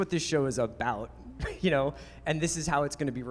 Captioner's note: laughs